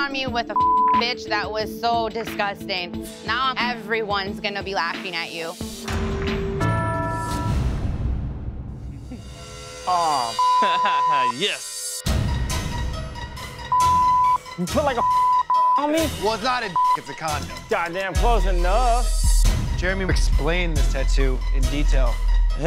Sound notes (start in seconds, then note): 10.2 laughs